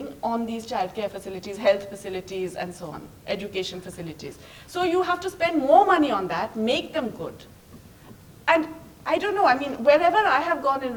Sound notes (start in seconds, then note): none